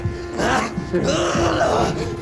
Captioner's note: screaming, struggling